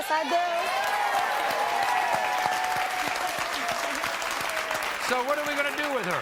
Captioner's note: audience cheering and applauding